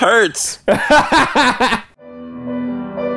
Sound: laughing; soft music

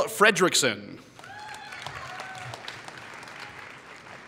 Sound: applause

